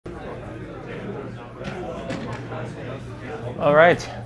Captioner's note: class murmuring